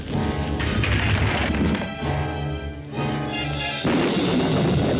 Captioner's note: metal scraping; thunder rumbling